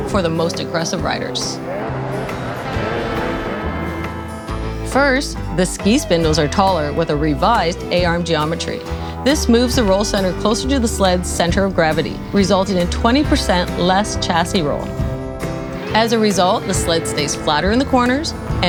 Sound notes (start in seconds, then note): 1.6 vehicle revving